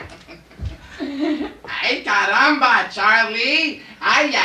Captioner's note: irritating laugh; bad accent